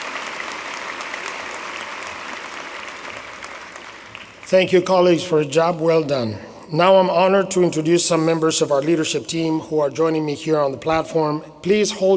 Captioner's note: applause